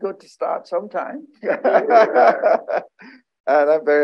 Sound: laughter

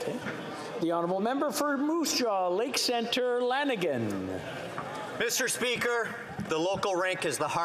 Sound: some Applause

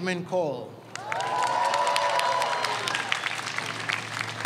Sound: audience cheers

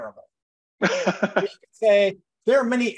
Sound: laughs

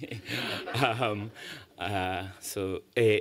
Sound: laughter

